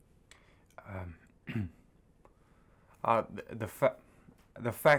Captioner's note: clears throat